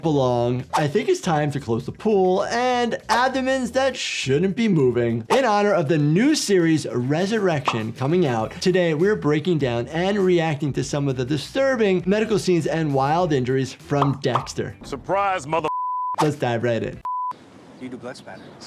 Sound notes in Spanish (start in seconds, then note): 17.0 pitido